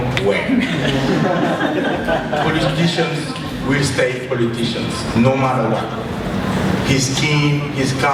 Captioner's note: laughter